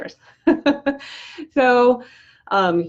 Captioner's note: laughs